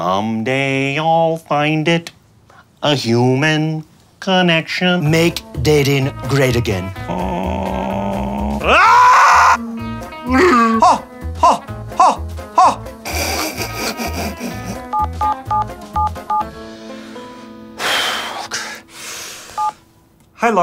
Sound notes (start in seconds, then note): 6.9 groaning; 8.8 yelling; 9.7 Chewbacca groaning; 12.5 crying; 14.9 beeping; 16.6 exhales